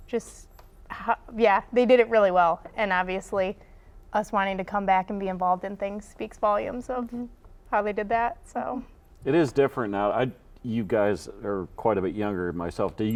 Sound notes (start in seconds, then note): none